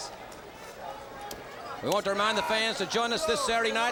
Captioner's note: crowd chatter